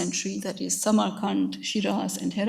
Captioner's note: speaks in a foreign language